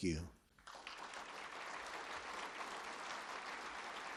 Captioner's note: applause